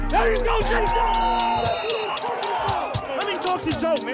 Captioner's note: whistle blows